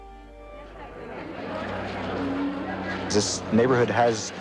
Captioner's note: crowd noises